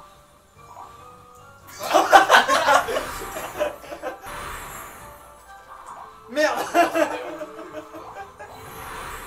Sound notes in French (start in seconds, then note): 1.7 Rire commun; 6.5 Rires